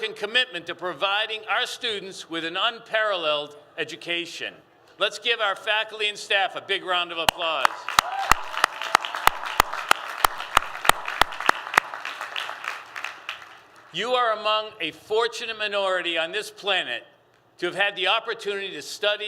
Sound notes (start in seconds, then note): 7.6 applause